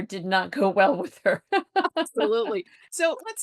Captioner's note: laughs